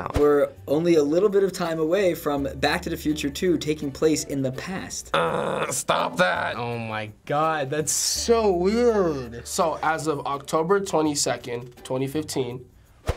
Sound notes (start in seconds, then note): 5.1 grumbles